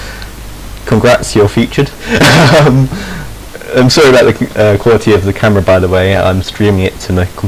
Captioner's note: he snickers